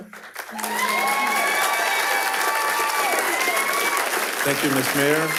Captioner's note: attendees cheers and applauds